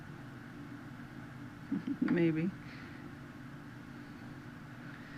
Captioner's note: laughing